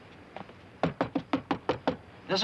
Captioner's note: knocking